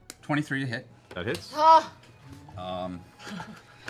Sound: cry of relief

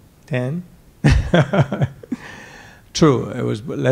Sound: laughing

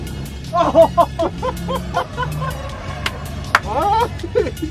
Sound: men laughing; man clapping

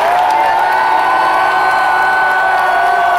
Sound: continued cheering

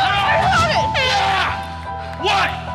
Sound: air horn blows

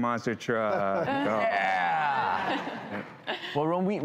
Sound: laughing

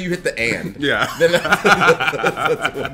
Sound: laugh

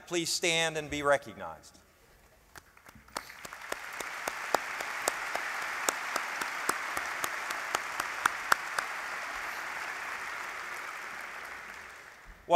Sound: applause

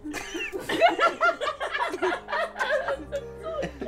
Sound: laughing

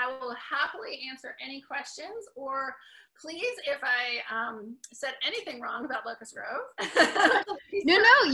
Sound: laughs

